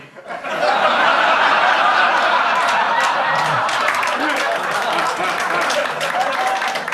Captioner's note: audience laughs; audience claps